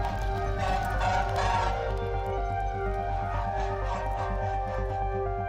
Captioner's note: sirens blaring; soft dramatic music